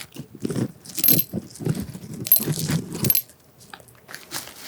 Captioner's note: clatter